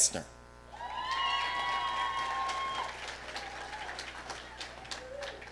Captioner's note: audience cheering